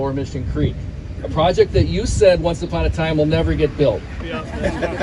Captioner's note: laugh